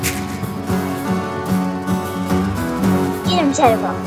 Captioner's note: elk attack Sounds